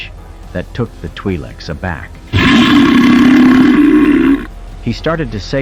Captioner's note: belch!